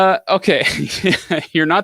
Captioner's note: laughs